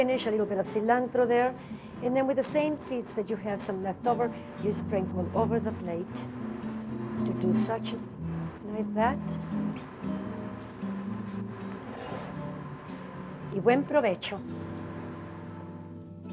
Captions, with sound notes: a little bit of cilantro there, and then with the same seeds that you have, some leftover, you sprinkle them over the plate, to do such, like that. (speaking Spanish)